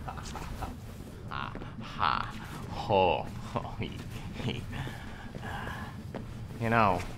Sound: laughing

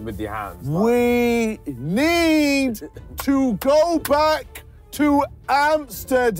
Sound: clapping

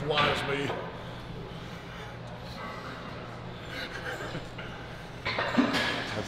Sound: laugh

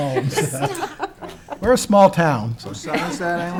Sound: laughing

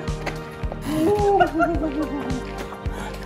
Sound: laughing

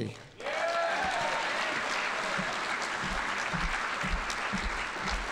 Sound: audience applauding

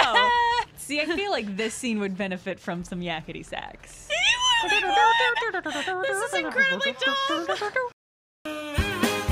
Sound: hums

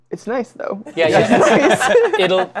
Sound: laughter

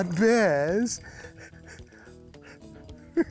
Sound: chuckling

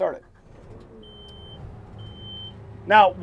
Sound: beeping

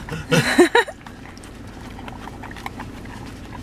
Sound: laughs

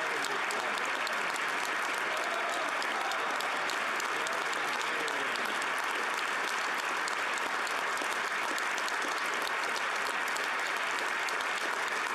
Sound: applause

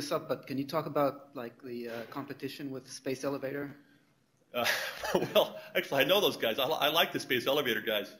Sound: chuckles

